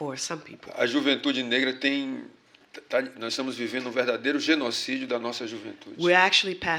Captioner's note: speaking portuguese